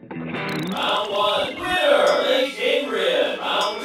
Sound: video game sounds

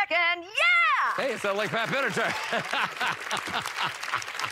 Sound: laughs

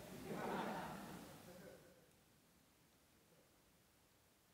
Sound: audience laughing

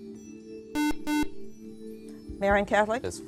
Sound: buzzer

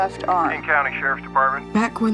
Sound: on phone

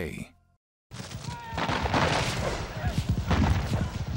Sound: war sounds

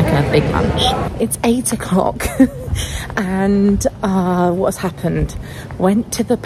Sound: laughing

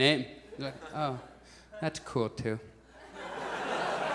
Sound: disappointed tone; audience laughs

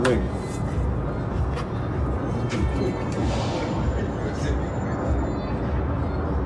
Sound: traffic roaring

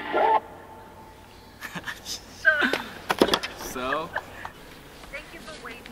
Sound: laughing

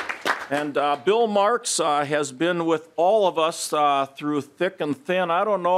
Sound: applause

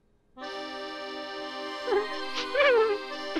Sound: sobbing

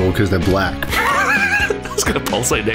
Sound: wheezes

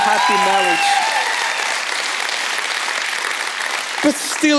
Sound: congregation applauding

